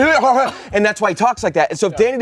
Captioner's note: gurgles